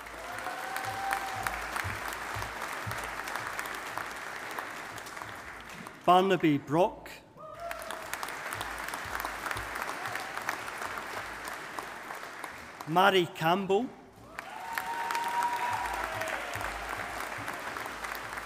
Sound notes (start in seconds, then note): 0.0 audience applauding